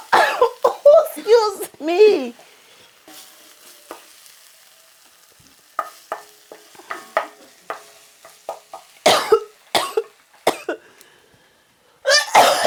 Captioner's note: coughing/Choking